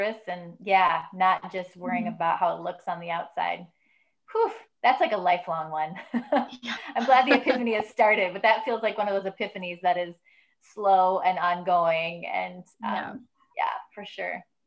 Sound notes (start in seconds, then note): 4.1 sighs; 6.5 laughs